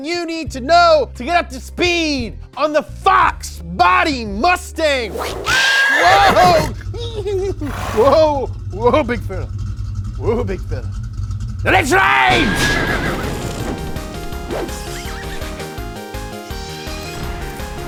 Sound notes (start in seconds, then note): 5.1 horse neighs; 12.4 electricity crackles